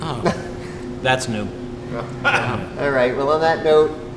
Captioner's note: sarcastically; laughs